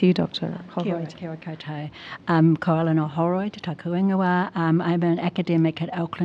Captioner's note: speaks foreign language